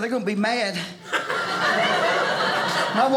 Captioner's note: audience laughing